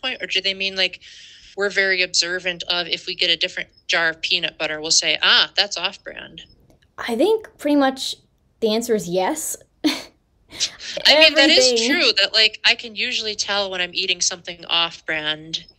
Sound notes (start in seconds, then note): 9.8 laughter